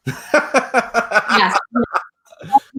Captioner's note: laughs